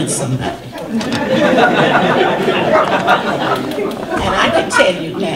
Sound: audience laughter

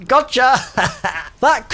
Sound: laughs

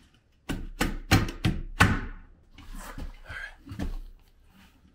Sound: fist pounding

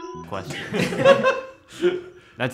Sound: giggle

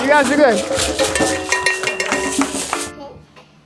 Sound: clapping

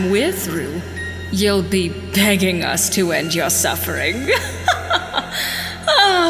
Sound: evil Laughter

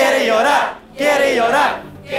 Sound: crowd chants

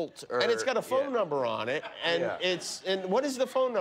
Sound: laughter

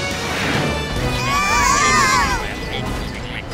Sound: screaming

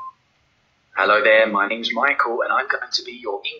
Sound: animated character, computer-generated voice

